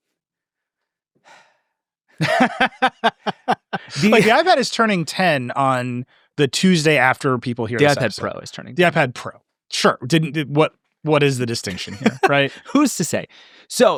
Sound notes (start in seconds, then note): 1.7 exhales; 2.2 laughing; 11.6 laughing